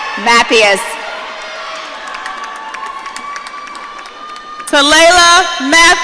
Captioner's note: audience cheering